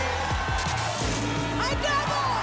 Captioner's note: static